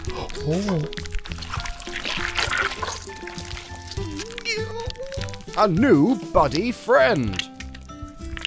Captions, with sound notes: *even squelchier buddy birthing sounds* a new buddy friend!